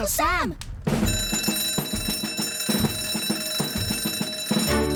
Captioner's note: alarm Blares; heroic Music